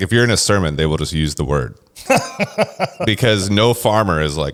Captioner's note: laughs